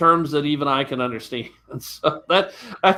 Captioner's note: laughs